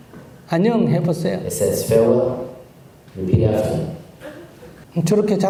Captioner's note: questioner Crying